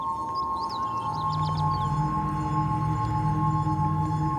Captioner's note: birds chirping